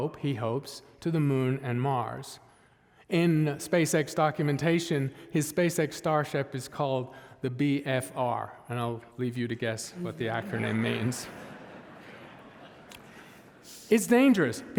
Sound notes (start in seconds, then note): 10.0 audience laughing